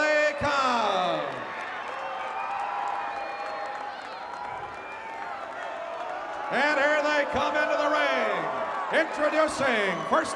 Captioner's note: applause